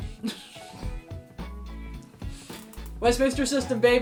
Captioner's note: laughter